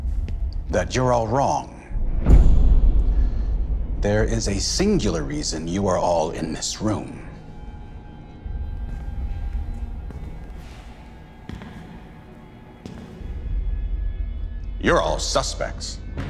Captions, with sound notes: that you're all wrong. (dramatic music) There is a singular reason you are all in this room. (dramatic music) (footsteps) You're all suspects.